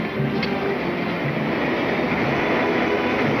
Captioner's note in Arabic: طقطقة